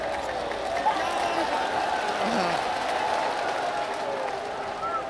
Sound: crowds claps and cheers

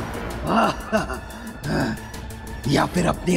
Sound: laughing

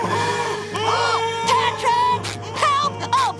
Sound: screaming; gasping

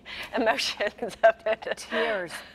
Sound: laughs

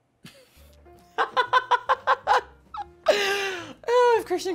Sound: laughs

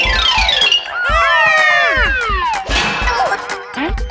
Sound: Gigglebot laughs; Gigglebots yell

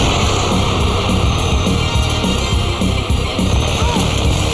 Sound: blast

